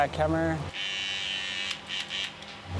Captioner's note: machine buzzing